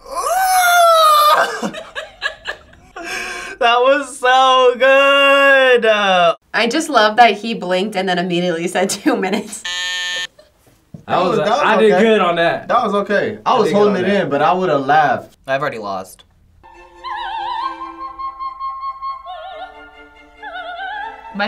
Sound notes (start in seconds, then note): 0.7 FBE laughs; 0.7 laughs; 9.6 buzzer rings; 16.6 opera music